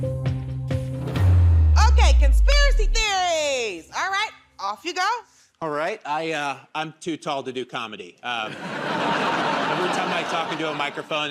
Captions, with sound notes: Okay. Conspiracy Theories. Alright. Off you go. -Alright. I'm too tall to do comedy. [ Laughter ] Every time I talk into a microphone,